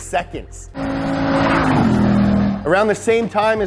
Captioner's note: car revs